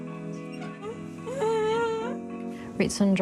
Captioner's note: grunts